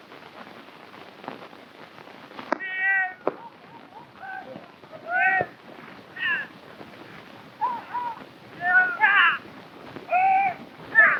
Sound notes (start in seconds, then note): 4.8 men shouting